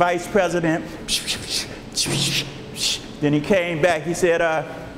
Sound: imitating whispering

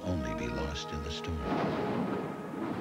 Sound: thunderclap as hopeful cornet joins music

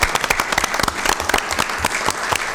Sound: applause

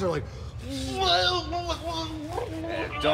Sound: gagging noises

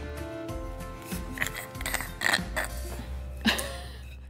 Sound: crackling loudly

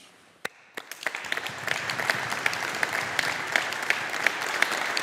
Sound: audience applauding

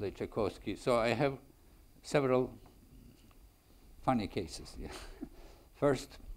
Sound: chuckles

